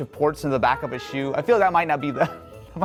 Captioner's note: laughs